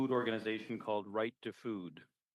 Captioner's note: speaking French